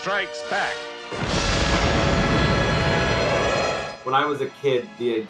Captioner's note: explosion